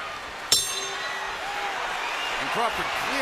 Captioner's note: bell rings